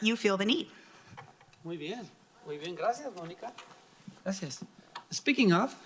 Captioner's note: speaking in foreign language